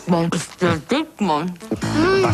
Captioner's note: woman speaks in German